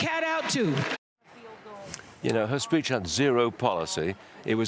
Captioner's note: applause